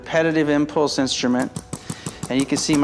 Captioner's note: ArthroStim rapidly clicking